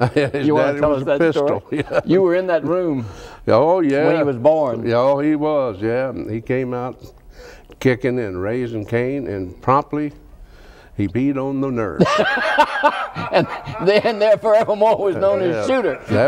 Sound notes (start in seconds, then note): 12.0 laughs